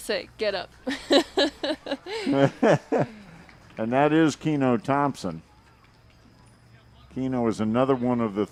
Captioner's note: laughing